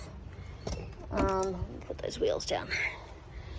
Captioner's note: clunk noise